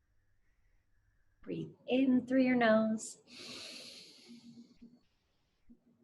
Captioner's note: lightly inhales